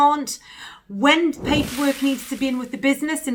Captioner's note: whooshing sound